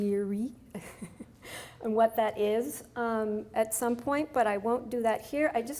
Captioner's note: laughs